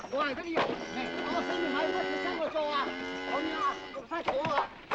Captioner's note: cow moos